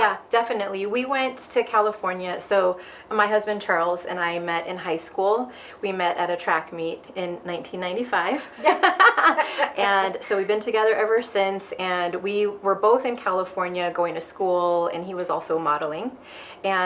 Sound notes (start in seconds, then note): 8.6 both laughing